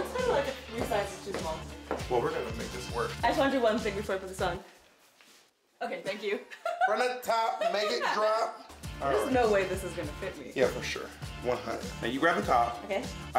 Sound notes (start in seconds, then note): 6.5 both laugh